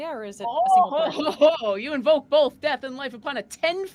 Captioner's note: laughs